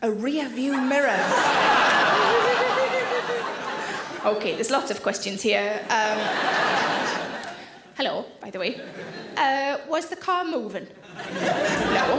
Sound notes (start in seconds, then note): 0.8 audience laughing; 5.8 audience laughing